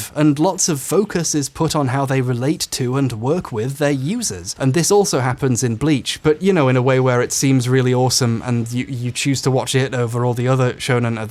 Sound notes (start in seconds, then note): none